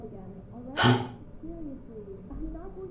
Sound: both gasp

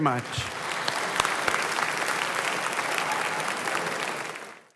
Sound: applause

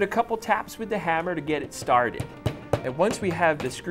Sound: hammer tapping

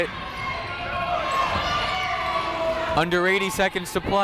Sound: people shouting in the crowd

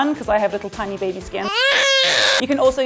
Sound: baby crying

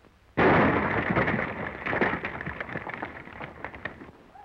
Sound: explosion booms

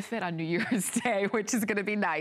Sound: laughter

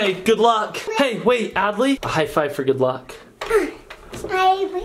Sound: grunts

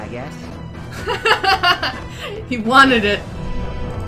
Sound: laughs

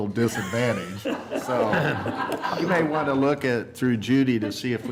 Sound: laughter

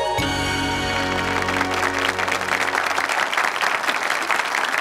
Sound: audience clapping

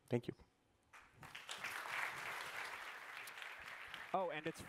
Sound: applause

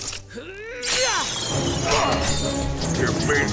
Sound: grunting

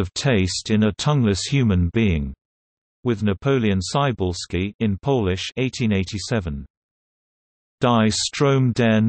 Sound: in Polish

